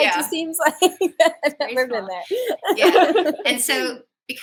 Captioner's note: laughter